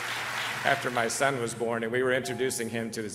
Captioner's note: clapping